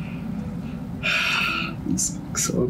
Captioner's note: sighs